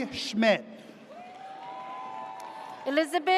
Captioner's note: audience cheers